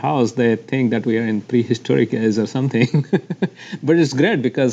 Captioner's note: laughs